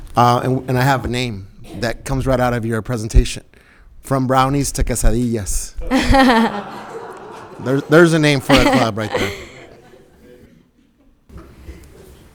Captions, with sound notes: And I have a name that comes right out of your presentation from brownies to quesadillas. (everybody laughing) There's a name for a club right there.